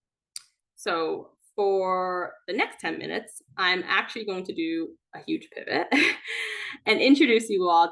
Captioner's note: chuckles